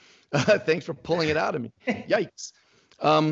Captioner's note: laughs